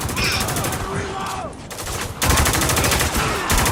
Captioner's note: guns firing